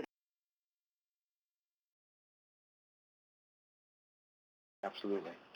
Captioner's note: audio cuts out